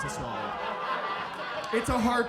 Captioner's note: audience laughs